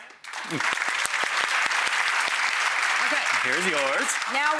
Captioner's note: applause